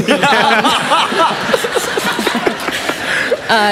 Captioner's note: laughter